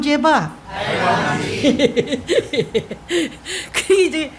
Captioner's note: laughter